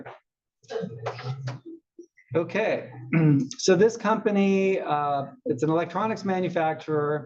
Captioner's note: cough